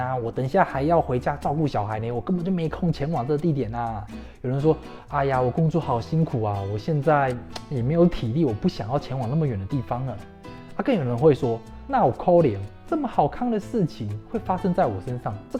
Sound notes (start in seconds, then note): 12.0 Taiwanese